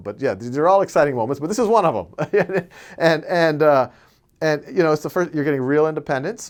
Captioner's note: laughs